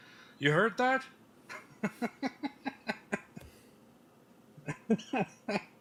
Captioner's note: Ketawa